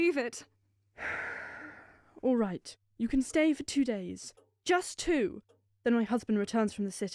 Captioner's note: long sigh